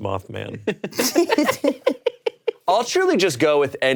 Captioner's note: both laughing